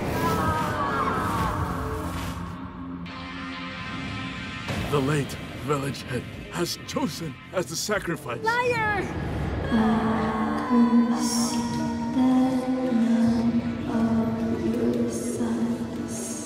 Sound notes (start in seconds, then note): 0.2 screaming; 9.8 mysterious ghost voice